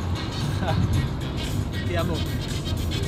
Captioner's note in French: rire